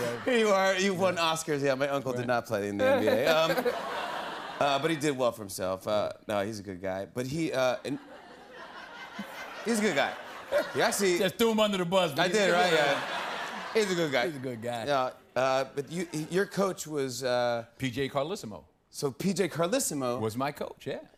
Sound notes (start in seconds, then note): 2.8 laughter; 7.8 laughter; 12.4 laughter